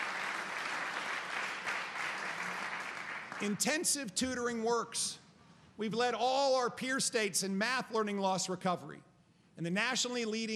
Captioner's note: applause